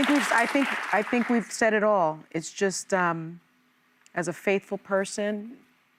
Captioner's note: applause